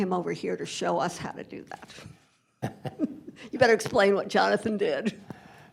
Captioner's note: laughter